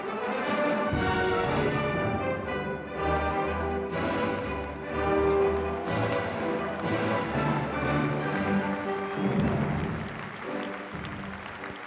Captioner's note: applause